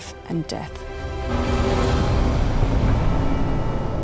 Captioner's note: bright music; engine roaring; soft music